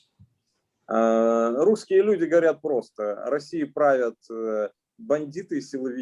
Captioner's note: speaking Russian language